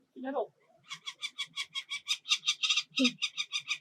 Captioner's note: chick cawing